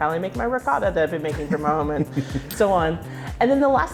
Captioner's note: laughing